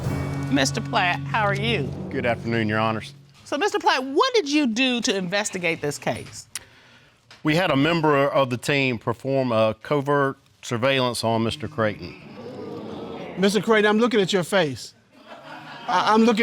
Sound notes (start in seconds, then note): 11.6 audience exclaim